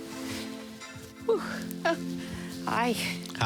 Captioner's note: laughs; sighs